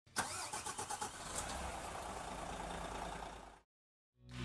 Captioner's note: car engine starting